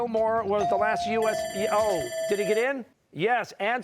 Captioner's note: bell ringing